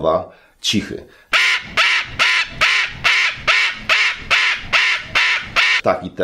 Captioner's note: cockatoo scream